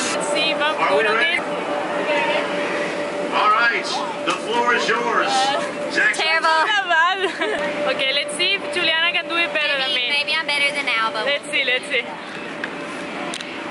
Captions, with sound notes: Let's see if I'm good at this. [background stadium announcer] Ehh terrible. It's not that bad Okay, let's see if Julianna can do it better than me Maybe, maybe I'm better than Alba. Let's see, let's see. [chatter]